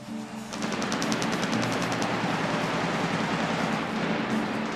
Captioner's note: pyrotechnics rumbling